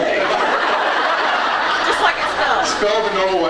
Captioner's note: laughs